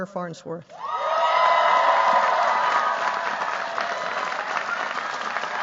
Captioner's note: cheers, applause